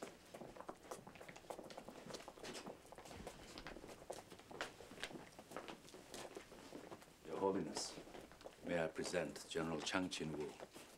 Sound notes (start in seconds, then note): none